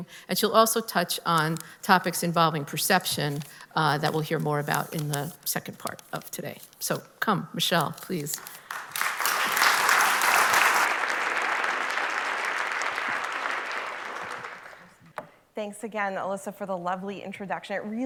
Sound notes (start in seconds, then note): 8.4 applause